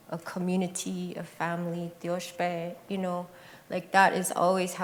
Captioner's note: non-english speech